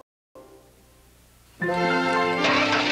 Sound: car engine starts

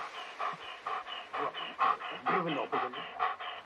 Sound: dog panting

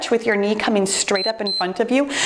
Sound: timer beeps

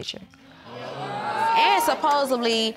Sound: audience groaning

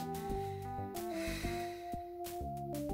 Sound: annoyingly sighs through the nose

